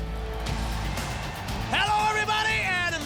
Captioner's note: crowd cheering